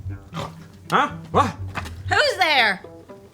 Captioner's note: snorts